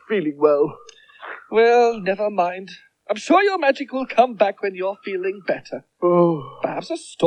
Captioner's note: magician Groans